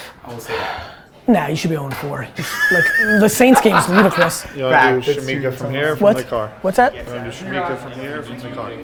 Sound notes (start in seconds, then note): 2.4 laughs